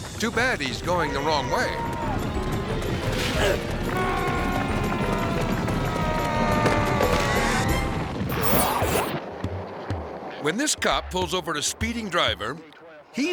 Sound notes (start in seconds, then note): 3.9 people yelling